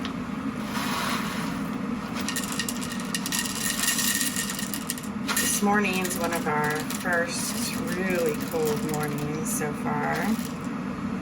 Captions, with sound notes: [enticing rattle of coffee beans] This morning's one of our first really cold mornings so far,